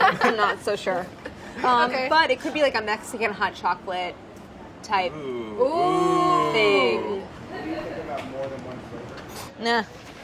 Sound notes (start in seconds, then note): 5.2 oohing